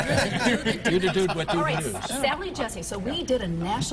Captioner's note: laughter